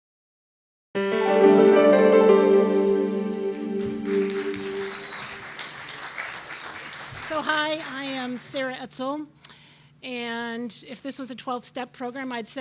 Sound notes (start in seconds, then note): 1.0 upbeat music; 3.9 audience applauding